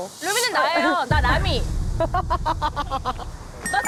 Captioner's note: SFX: teeth sparkling